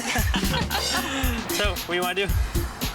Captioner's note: laughing